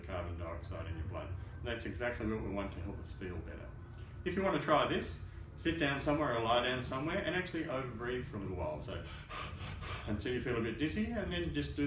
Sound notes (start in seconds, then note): 9.0 huffing